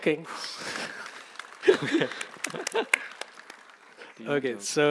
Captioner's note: applause